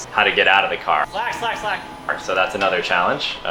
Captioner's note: raised voice